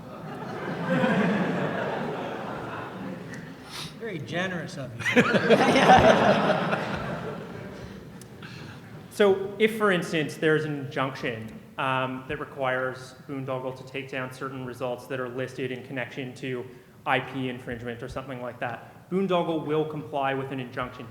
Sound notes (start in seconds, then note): 0.0 laughter; 3.9 voiceover; 5.0 laughter